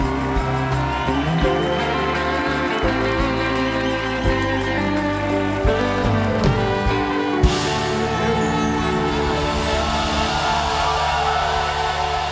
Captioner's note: cheers and applause